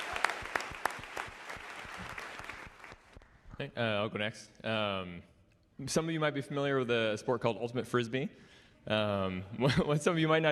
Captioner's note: applause